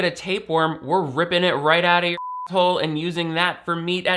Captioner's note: beep